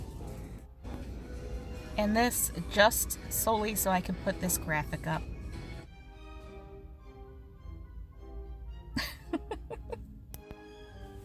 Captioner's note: laughs